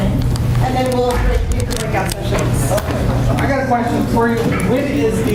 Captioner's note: murmurs